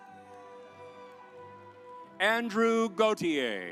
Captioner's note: audience applauds